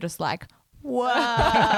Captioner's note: laughs